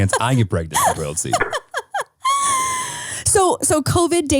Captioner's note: laughing